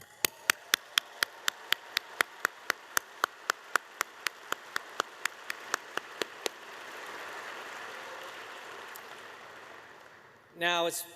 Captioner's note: applause